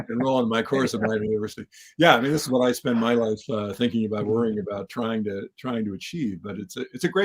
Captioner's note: laugh